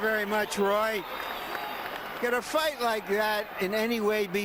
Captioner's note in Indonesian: Tepuk tangan